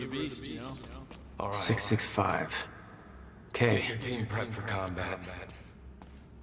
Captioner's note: as an echo from the past